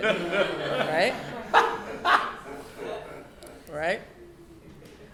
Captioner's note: laughing